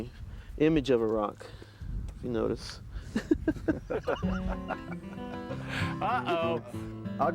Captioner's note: laughter